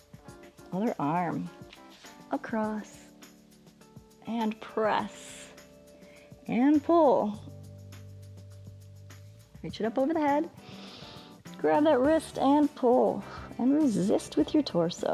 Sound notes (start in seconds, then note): 10.6 inhales